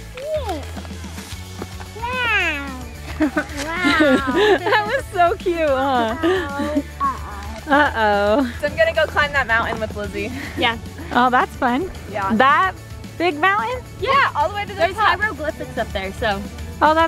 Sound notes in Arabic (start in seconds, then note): 3.0 ضحكات خافتة